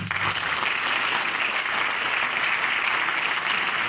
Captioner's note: clapping